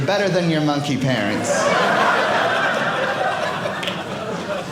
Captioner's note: audience laughing